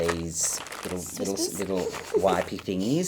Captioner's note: giggles